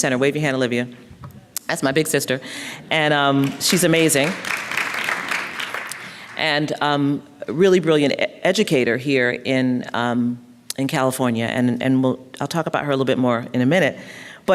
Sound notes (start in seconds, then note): 3.4 applause